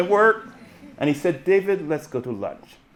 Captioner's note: audience laughing